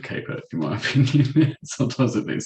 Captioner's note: chuckles